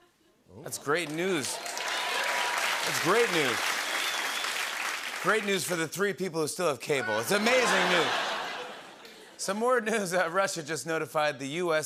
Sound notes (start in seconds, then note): 0.8 cheers and applause